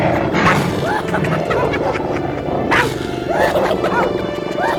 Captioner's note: ਹਾਈਨਾ ਹੱਸਦੇ ਹੋਏ